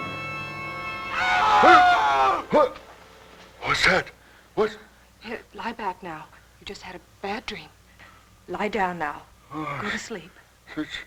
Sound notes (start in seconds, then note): 1.3 yelling